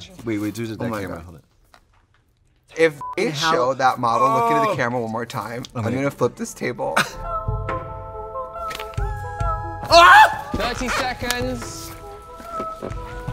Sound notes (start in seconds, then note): 3.0 beep; 7.0 eerie music; 9.9 hand yells